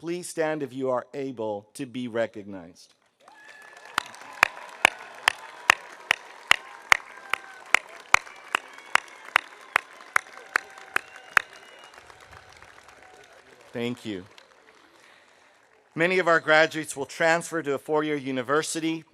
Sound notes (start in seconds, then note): 3.6 audience applauding; 3.6 audience cheering